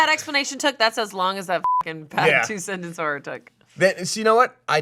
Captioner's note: beep